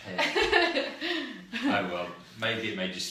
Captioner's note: laughs